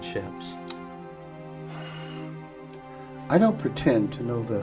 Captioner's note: sighs